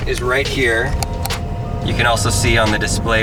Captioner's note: button clicking